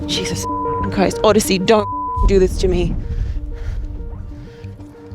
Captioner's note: beep